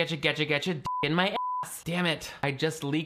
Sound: beep

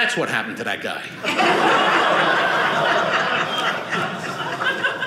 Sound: audience laughing

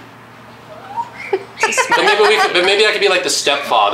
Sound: laughing

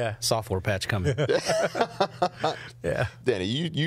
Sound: laughing

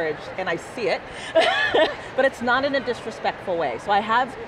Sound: laughs

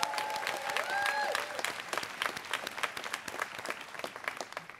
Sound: students cheering

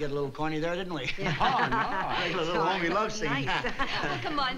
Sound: laughter

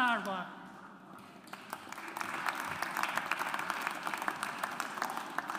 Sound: audience applauds

